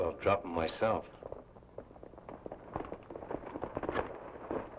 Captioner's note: horses clopping